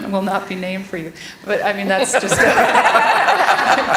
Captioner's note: laughter